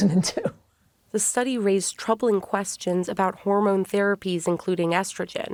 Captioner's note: voice-over